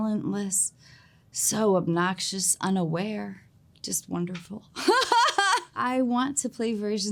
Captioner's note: laughs